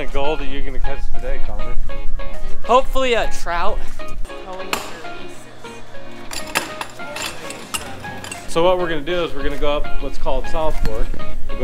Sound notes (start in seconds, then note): 4.2 upbeat music; 6.2 clattering; 6.2 upbeat music